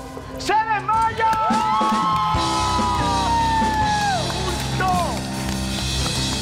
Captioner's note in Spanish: Gritos